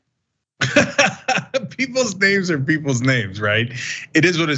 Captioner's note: laugh